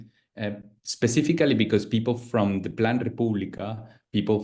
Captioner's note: speaks Spanish